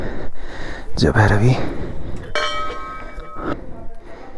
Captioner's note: rings the bell